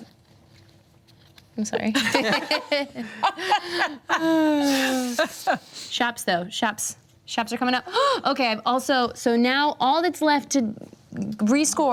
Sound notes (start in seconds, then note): 2.0 everyone laughs; 8.3 inhales sharply